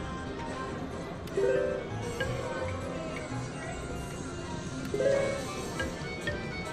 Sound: machine beeps

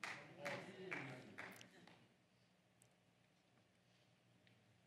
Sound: congregation applauds

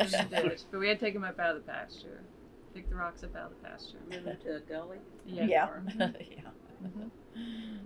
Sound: laughter

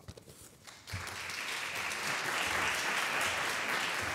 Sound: audience clapping

